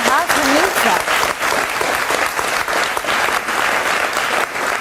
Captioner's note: audience applauds